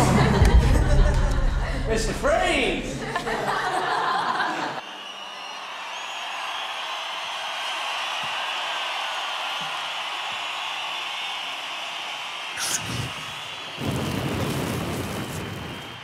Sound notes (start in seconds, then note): 0.0 laughter; 3.0 laughter; 4.3 crowd cheering; 12.2 inhales; 12.6 flame ignites